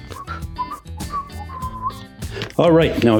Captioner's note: whistles